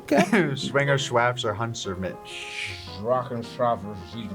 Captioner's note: foreign language